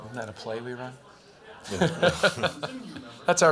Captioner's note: laughter